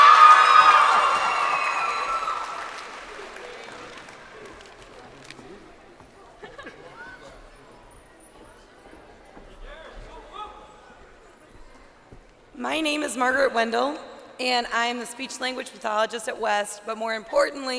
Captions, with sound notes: Trinity Elizabeth Snyder. (crowd cheering) >>My name is Margaret Wendell,